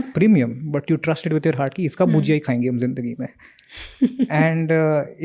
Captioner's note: speaks in Hindi